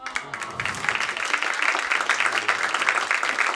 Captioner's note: audience applauding